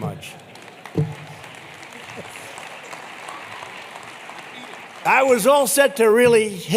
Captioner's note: applause